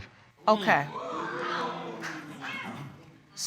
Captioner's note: audience gasps